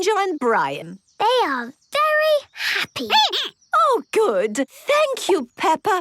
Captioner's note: squeaking